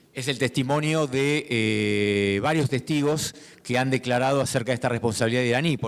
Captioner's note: speaking in foreign language